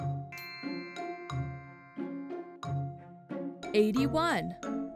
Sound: animated music; magical chime

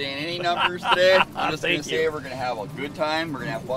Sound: laughing

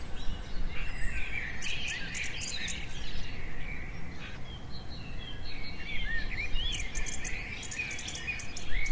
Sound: forest birds

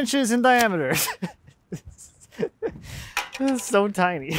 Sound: laughs

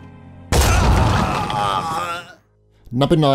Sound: dramatic music; gun booms; man yells

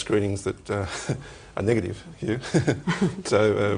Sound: chuckles

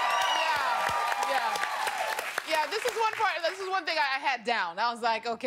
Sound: cheers and applause

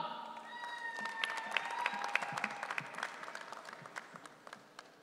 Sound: audience cheering

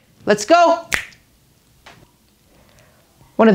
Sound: fingers snapping

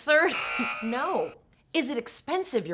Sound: loud beep

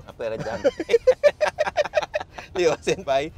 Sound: both laugh

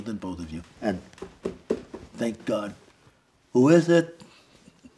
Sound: knocking on wood

